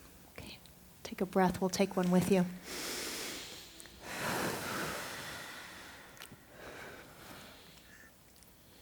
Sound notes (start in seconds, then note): 2.6 deep breaths